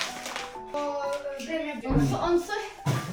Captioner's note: sprinkling salt